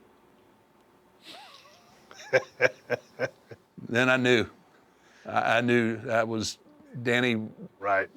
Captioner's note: laugh